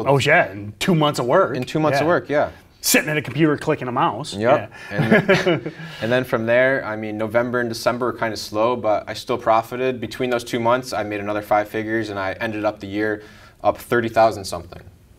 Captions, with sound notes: - Oh yeah, in two months of work! - In two months of work, yeah. - Sitting at a computer, clicking a mouse (laughing). - And then from there, I mean, November and December were kinda slow, but I still profited between those two months. I made another five figures, and I ended up the year up 30,000-something.